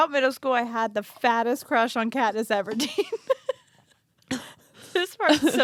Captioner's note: laughs